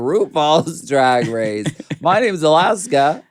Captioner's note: Courtney laughs